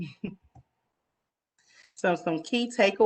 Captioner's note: giggles